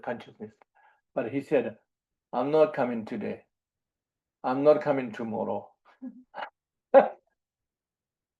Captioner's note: laughs